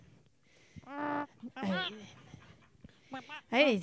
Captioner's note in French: gloussements